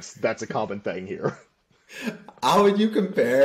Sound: laughter

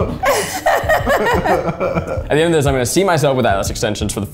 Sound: laugh

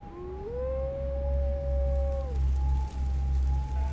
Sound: wolf howling

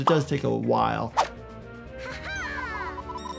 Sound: air whooshing

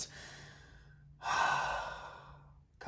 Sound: sighs

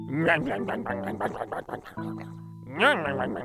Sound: chewing

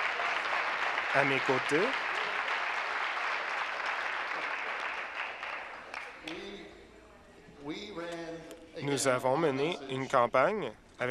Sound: applause

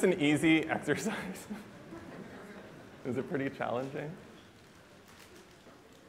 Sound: laughter

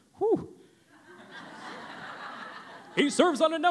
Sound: laughter

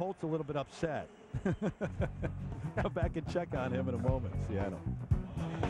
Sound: laughs

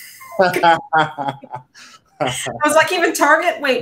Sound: both laughing

